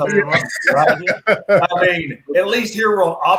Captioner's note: laughing